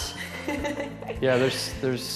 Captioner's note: laughing